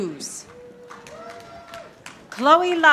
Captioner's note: audience applauding